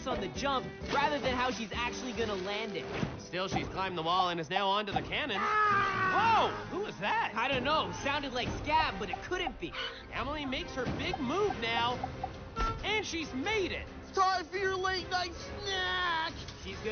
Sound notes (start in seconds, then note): 5.3 screams